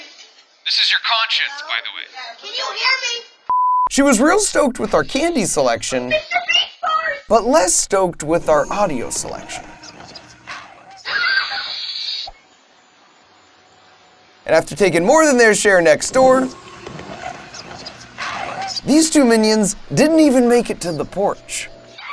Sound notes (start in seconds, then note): 11.0 kid screaming